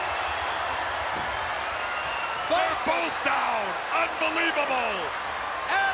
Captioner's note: applause